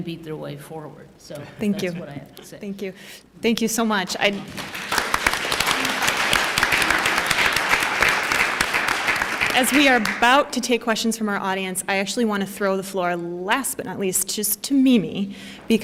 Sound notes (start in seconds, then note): 4.3 applause